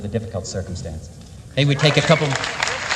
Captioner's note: applause